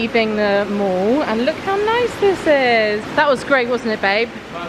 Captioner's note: water rushing